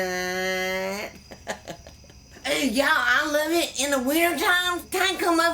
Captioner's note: giggles